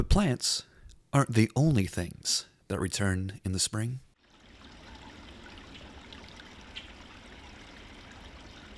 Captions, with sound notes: But plants aren't the only things that return in the spring. (splashing) (chirping)